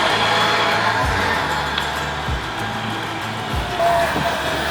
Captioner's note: machine operating